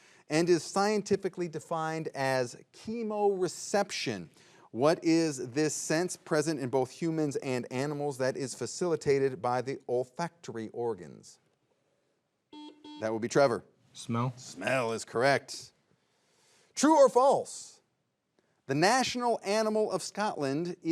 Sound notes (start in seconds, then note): 12.5 buzzer beeps